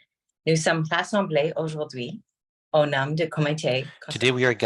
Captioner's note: speaking French